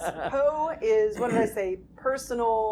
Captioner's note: laughing